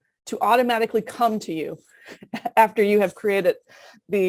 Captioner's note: laughter